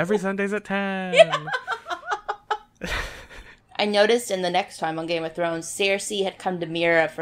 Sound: laughs

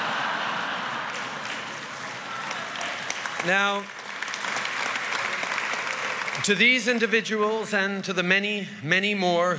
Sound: laughter & applause

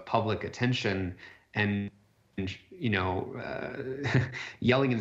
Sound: chuckles

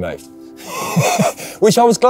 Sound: laughing

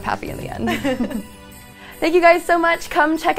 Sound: laughs

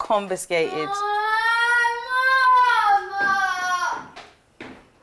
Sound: yelling

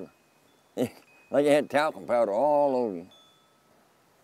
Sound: laughing

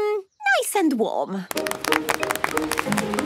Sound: applause

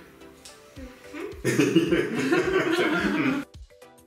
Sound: laughing

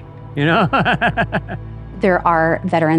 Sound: laughs

